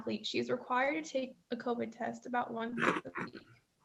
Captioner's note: speaks faintly